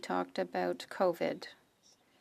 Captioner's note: speaking French